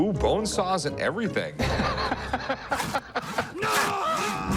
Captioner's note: laughter